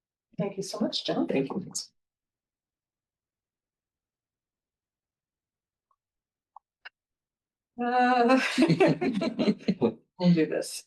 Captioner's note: laughter